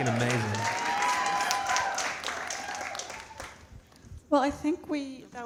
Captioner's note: audience cheering and clapping